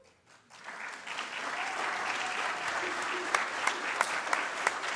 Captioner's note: audience claps